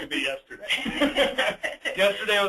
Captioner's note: laughing